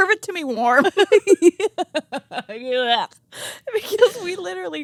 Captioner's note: both laughing